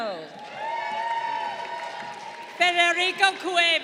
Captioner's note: crowd cheering